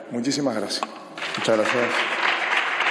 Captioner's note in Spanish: Aplausos